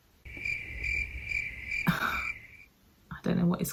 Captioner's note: crickets chirp